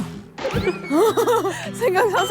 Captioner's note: laughing